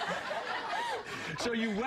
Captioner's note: laughter